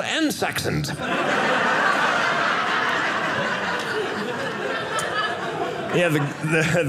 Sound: audience laughing

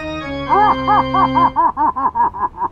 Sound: evil laughter

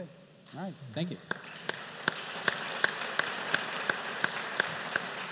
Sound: applause

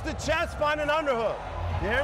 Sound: cheers and applause

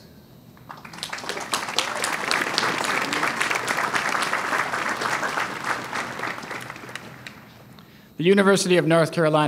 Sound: applause

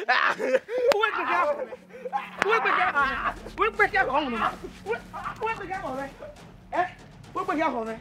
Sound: commotions

